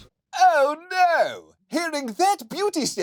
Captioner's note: in old-timey english accent